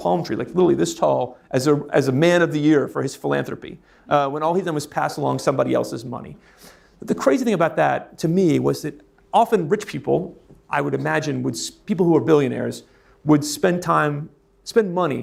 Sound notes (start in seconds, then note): none